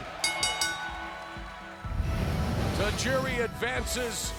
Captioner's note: bell ringing